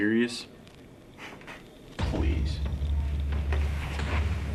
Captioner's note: scoffs; ominous music